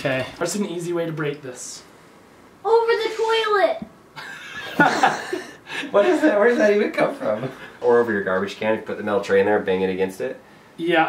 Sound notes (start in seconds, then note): 4.1 laughing